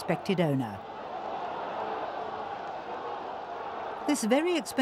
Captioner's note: crowd yelling